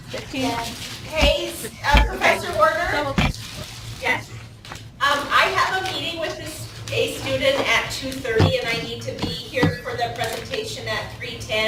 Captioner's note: teachers talking